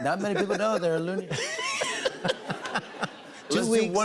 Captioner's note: laughter